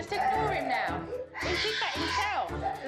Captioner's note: screaming continues